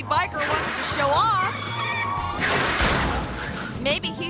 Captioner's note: tire screeching; motorcycle slams